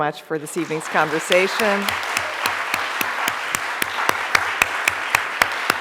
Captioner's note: audience applauds